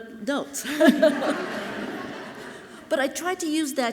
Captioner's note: audience laughing softly